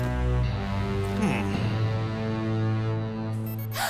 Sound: alex's compowder rings

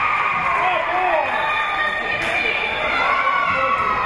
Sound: spectators cheering and applauding; whistle being blown; spectators cheering; whistle being blown

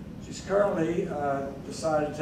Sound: none

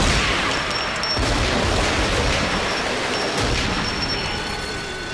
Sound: gunshots; gunfire; siren wailing

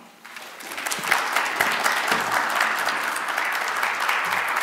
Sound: audience applauds

